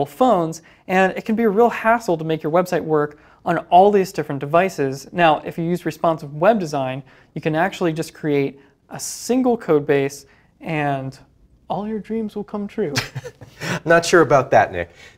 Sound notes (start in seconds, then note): 12.9 laughs